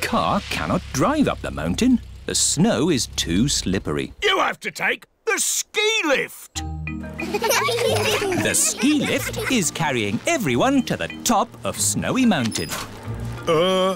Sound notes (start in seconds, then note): 7.2 laughter